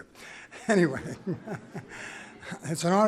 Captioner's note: laughs; laughter